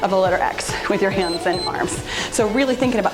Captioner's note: timer beeps